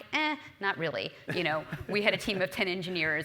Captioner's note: laugh